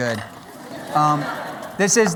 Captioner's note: laughter